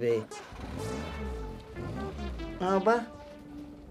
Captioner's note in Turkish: Araba sesi